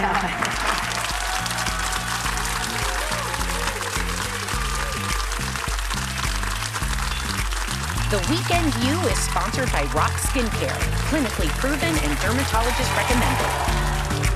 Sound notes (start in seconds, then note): 4.5 applause